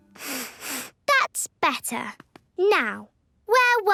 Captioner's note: sniffs